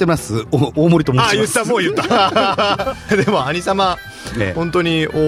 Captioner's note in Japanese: 笑い